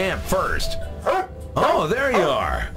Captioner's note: barks